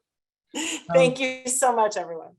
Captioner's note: laughs